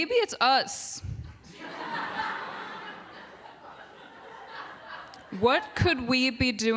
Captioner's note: laughter